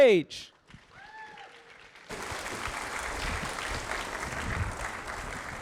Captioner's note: audience applauding